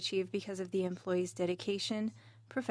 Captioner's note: speaking in French